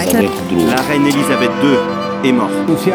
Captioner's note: Ukranian; French